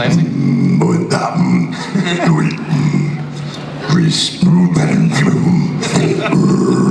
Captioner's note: Clancy speaks in orcish